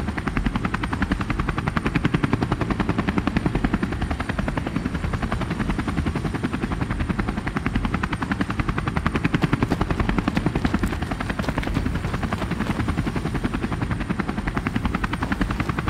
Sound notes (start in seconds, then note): 9.2 footsteps pattering